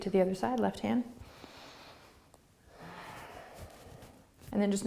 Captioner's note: breathing